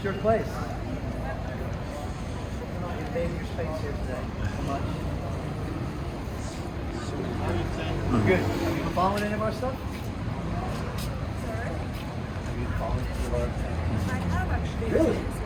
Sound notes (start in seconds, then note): 5.0 indistinct traffic noise